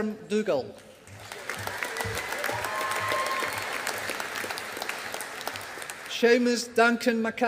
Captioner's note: audience applauding